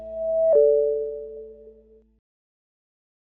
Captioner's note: chiming